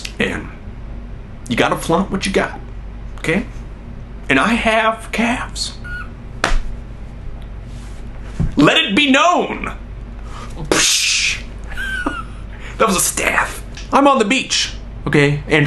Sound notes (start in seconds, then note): 5.8 laughs; 10.5 swishing; 11.6 laughs